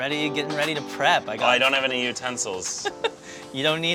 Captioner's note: laughter